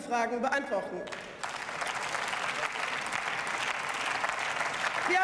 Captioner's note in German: Beifall